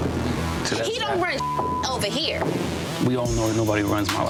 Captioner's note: beep